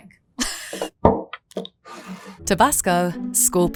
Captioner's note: bottle thuds and scrapes